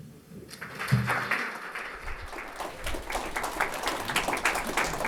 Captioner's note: audience applauds